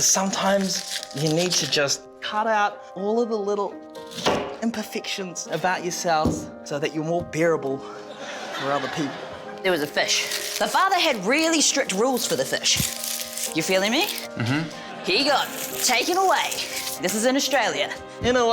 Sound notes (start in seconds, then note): 6.2 thud!